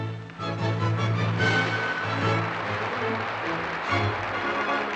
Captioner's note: audience Applauding